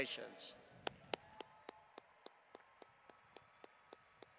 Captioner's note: audience applauding